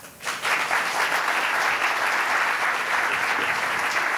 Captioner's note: audience applauding